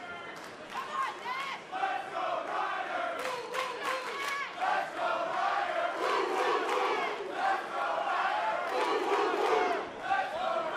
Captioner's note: crowd cheering